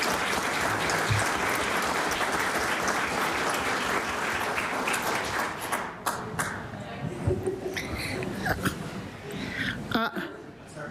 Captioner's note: applause